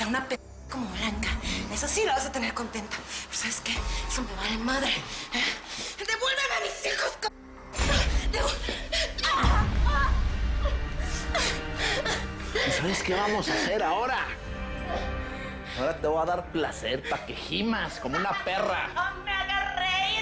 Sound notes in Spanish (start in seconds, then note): 9.7 Quejido; 10.6 Sollozos